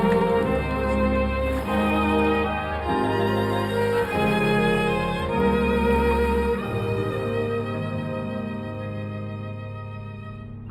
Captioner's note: cheering and applause